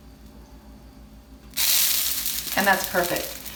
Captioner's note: pan sizzles